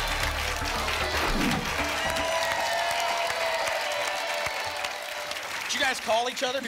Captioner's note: applause and cheering cont